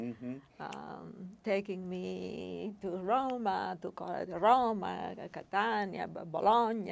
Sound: speaking foreign language

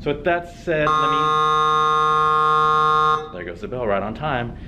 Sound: school bell ringing

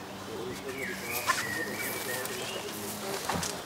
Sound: birds chirping, quiet conversations

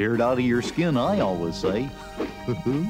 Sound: laughs

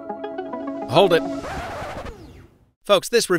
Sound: record scratches

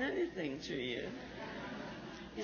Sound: laughs

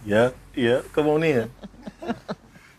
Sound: laughter

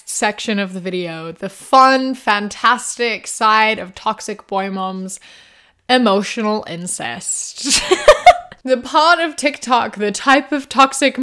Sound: laughs

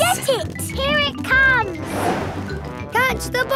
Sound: whoosh

